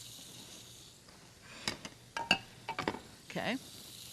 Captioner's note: plate clattering